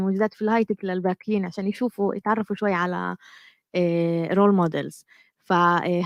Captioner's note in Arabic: لغة أجنبية; لغة أجنبية